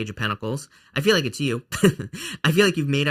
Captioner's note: laughs